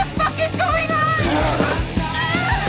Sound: creature growls

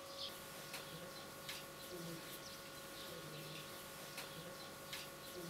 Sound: distant birds chirping

